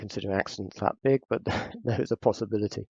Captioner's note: laughs